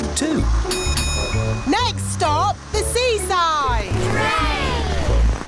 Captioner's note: bell dings